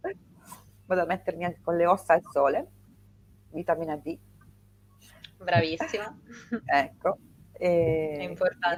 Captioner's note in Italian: risate; schiarire la voce